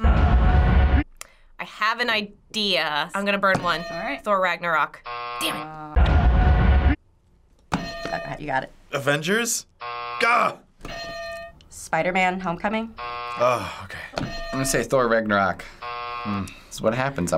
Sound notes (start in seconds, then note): 0.0 thrilling music; 5.0 buzzer; 6.0 thrilling music; 7.6 hitting bell; 9.8 buzzer; 10.9 hitting bell; 12.9 buzzer; 14.3 hitting bell; 15.7 buzzer